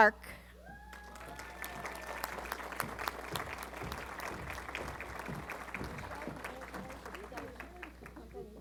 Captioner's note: applause